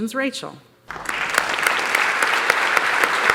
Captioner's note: applause